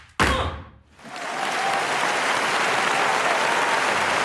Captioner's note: applause